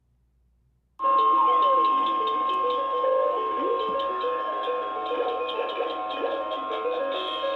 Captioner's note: jolly music; toy whirring